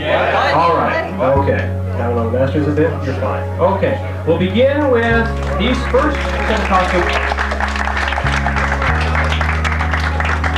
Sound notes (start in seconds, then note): 6.6 audience claps